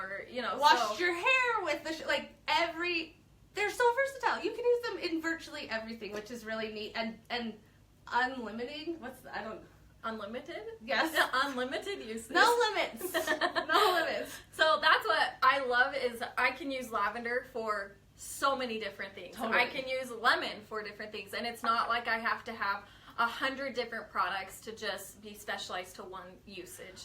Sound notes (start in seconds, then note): 13.0 chuckles